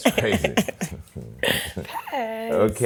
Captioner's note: laughs